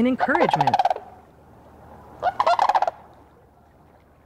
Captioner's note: crane squawks